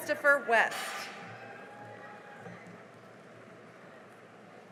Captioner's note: cheering and applause